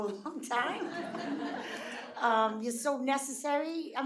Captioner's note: audience laughing